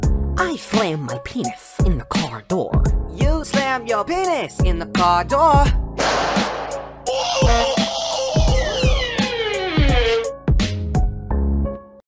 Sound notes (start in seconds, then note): 6.0 door slam; 7.0 pained scream; 8.9 slow door creak